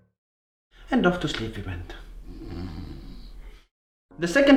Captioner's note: snores